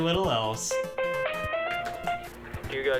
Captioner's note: phone rings